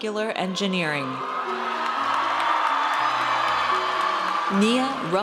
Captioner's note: audience cheers